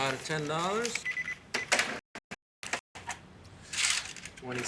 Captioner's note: cash register beeps